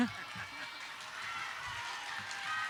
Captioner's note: audience applauding